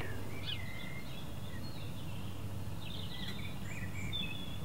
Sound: birds Chirping

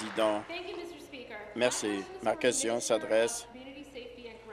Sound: applause

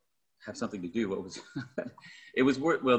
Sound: laughs

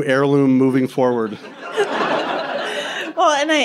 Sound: crowd laughing

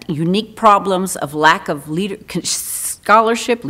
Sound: stutters

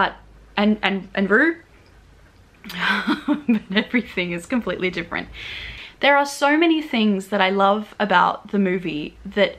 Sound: laughs

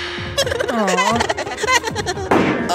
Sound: crying

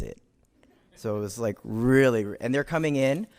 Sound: audience chuckles

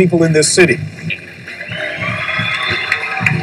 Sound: crowd cheering

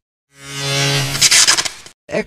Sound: electrical noise

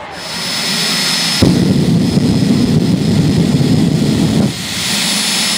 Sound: Sarah Edwards jet dragster sound

